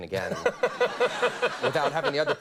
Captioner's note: audience laughs